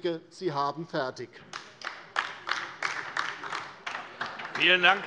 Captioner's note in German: Beifall DIE LINKE